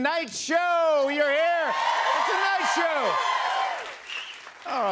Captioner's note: cheers and applause